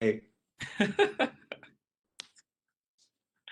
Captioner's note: laughs